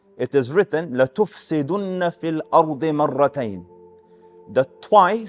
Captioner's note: Arabic